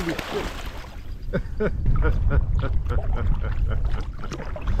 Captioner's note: laughs